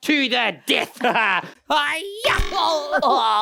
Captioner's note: Cosec laughs